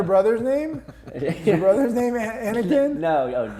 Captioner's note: laughing